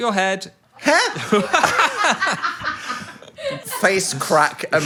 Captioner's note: everyone laughs